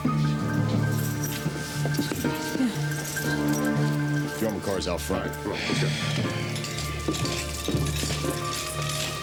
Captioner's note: keys rattle